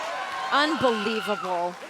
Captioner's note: crowd cheering